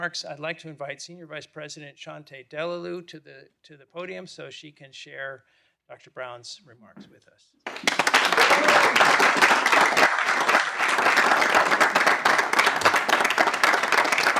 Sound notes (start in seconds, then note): 7.6 audience applauding